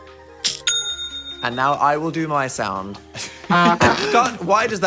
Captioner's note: bell rings; horn honks